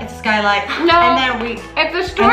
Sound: laughs

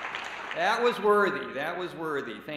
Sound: cheers and applause

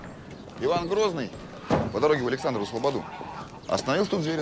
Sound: in Russian "strunit"

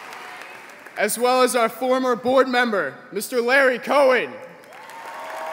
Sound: applause

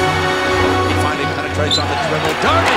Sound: voiceover; cheering

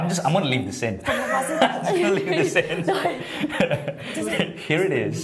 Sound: laughter

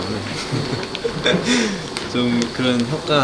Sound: hehe

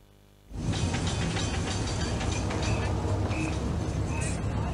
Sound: train engine chugging

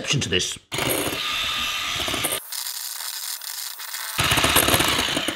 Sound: beater whirring

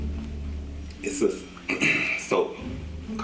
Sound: cough, throat clearing

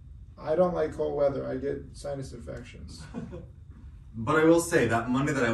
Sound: laughs

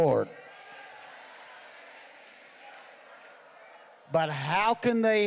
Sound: congregation cheering

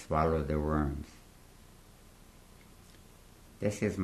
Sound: pauses for 3 seconds

